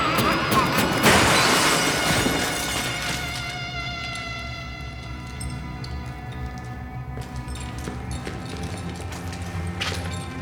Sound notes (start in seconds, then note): 5.7 metallic screeching, whirring